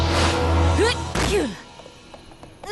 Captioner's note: smash